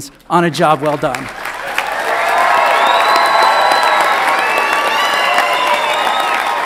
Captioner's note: audience applauds and cheers